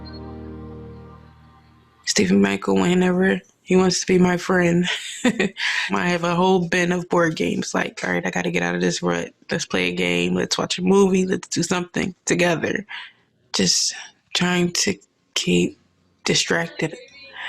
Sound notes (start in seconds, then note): 5.3 laughs